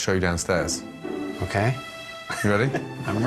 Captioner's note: laughing